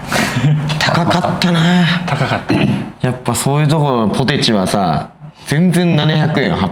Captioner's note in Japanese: 咳払い